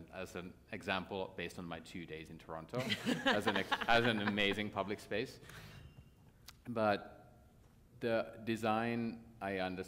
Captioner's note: laughter